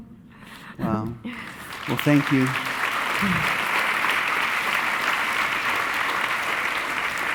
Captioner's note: audience applauding